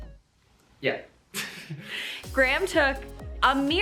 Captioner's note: chuckles